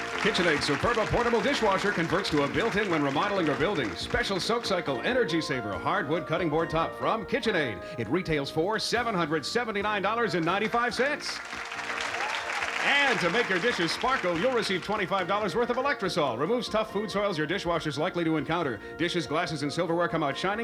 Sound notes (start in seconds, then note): 10.3 applause, cheering